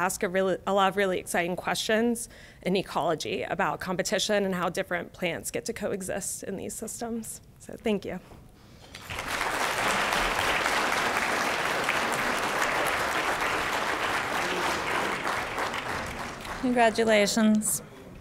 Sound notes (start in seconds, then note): 9.7 applause